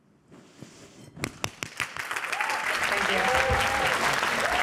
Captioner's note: cheering